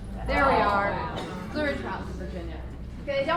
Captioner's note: voiceover